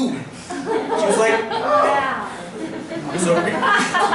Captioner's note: laughter